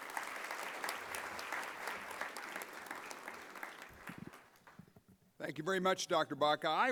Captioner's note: applause